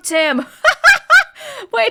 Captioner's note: laughs